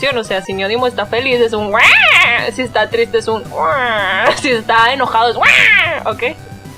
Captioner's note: happy squeal; sad squeal; angry squeal